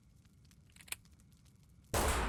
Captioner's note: gunshot; gun clicks